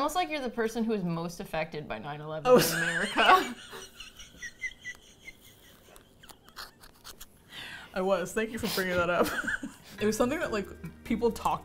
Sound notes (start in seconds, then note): 2.5 laughs; 3.6 laughs breathlessly